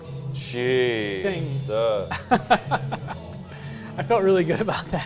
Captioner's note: laughs